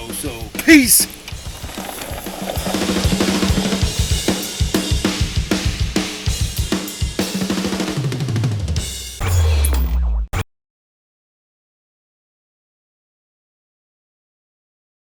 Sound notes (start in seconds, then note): 1.2 engine roaring; 1.8 energetic music